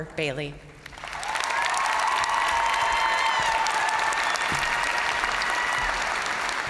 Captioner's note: crowd applauding; crowd cheering